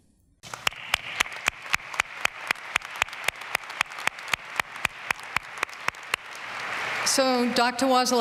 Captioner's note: applause